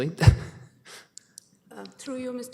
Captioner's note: chuckles